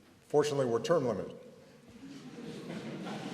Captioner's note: laughter